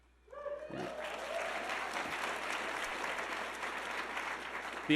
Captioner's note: audience clapping